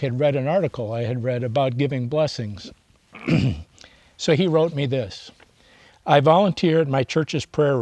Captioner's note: clears throat